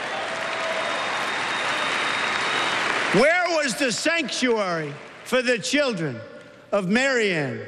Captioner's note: crowd booing